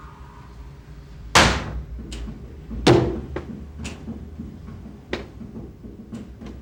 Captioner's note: hand slams